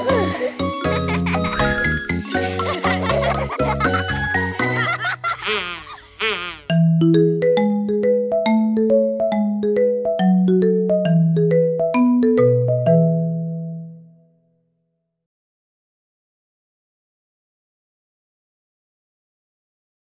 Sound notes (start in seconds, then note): 0.0 happy music; 2.7 children laughing